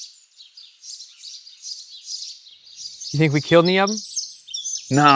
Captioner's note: birds chirp